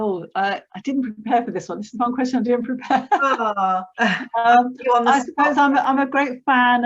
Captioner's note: laughs